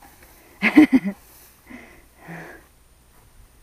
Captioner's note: laughter